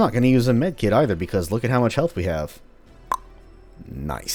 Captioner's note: tongue click